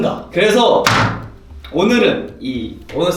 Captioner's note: slap-!